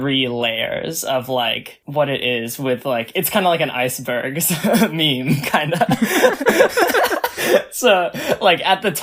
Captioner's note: both laugh; laughs